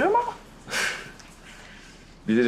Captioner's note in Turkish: Nefes sesi